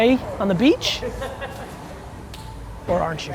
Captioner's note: man laughs